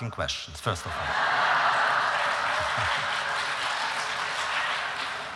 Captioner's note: applause